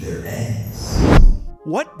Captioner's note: air whooshing